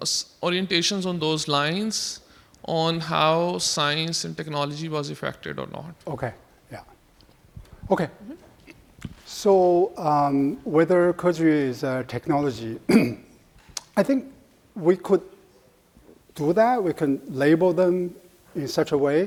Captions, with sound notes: orientations on those lines on how science and technology was affected or not? - Okay, yeah. Okay, so whether Keju is a technology, (clears throat) I think we could do that, we can label them in such a way.